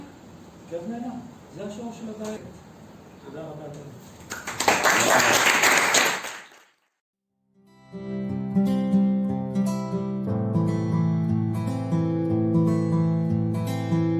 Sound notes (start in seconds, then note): 4.2 applause